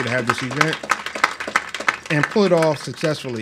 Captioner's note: applauds